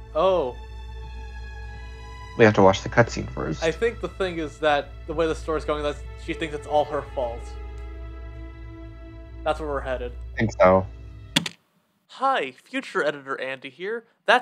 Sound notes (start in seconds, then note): 11.3 spacebar click